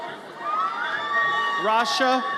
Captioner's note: audience cheers